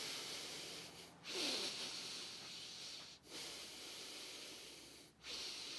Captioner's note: heavy breathing